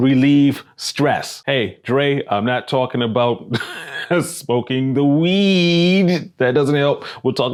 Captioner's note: laughing